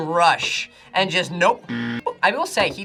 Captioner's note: buzzer rings